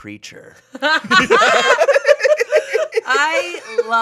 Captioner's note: group laughing